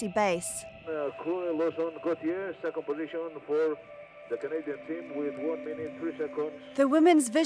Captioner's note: announcer speaking